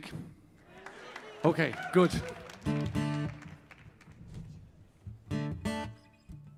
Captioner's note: audience applauding